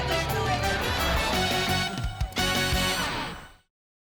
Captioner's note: whoosh